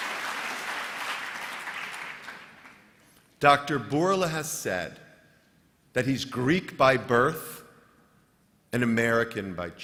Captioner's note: applause